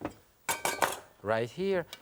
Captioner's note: spoon clanking